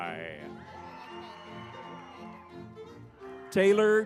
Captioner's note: lively music; crowd cheering